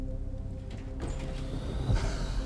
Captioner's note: door clattering; spider hissing